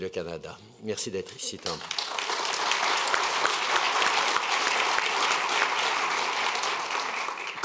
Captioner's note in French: Applaudissements